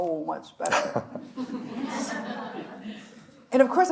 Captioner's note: chuckles; audience laughs